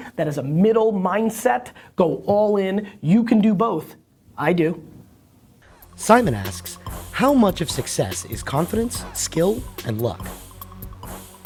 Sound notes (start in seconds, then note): 6.1 voiceover